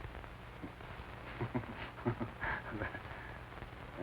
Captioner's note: laughs wryly